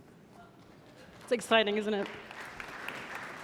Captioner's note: audience applauding